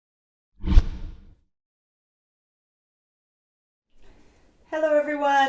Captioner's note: logo whooshes